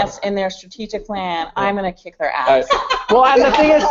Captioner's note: laughter